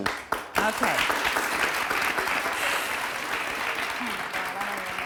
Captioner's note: audience applauds